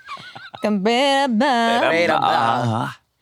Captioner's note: laughs